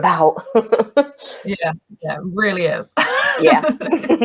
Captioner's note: laughs; laughs